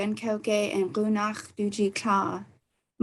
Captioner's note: speaking foreign language